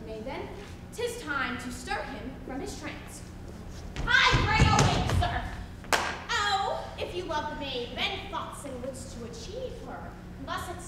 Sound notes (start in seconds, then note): 6.0 hand smacks